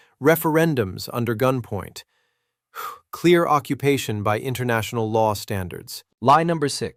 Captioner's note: exhales sharply